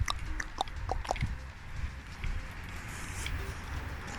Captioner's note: walking